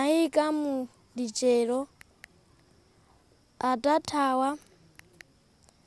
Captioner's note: child reading in another language